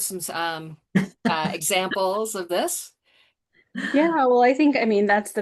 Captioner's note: laughs